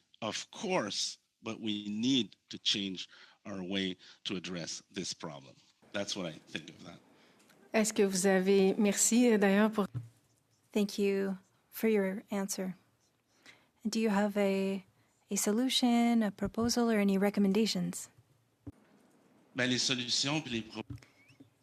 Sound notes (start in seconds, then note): 11.3 speaking French